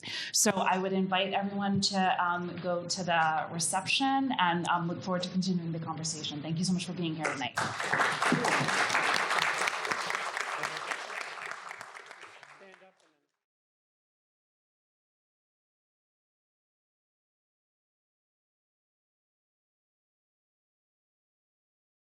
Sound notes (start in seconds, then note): 7.5 audience applauds